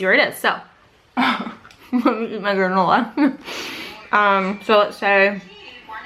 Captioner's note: laughing